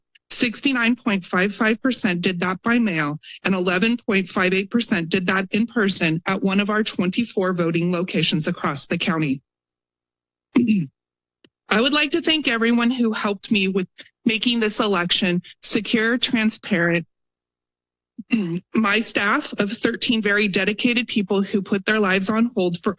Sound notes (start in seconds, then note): 10.5 clears throat; 10.6 pause